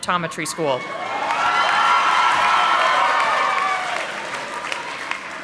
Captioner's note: audience applauding